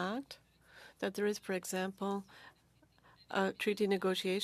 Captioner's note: speaking French